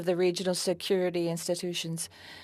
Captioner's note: speaking French